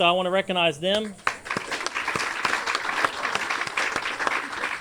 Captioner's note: audience applauds